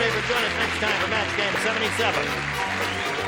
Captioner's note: applause